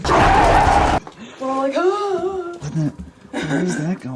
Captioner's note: groans